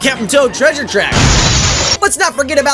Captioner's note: incredibly loud boom